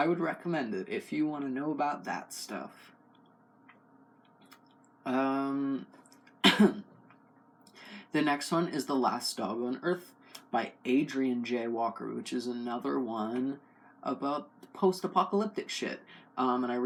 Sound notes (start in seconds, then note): 6.4 cough